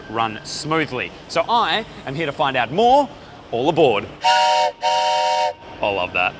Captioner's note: train whistle